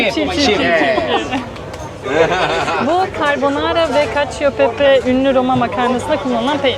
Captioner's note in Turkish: kahkaha